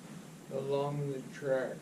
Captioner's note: none